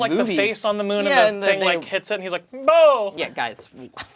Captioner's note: vocalizes